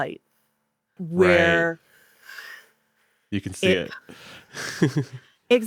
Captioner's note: chuckles